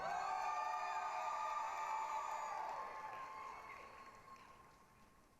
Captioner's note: applause, cheering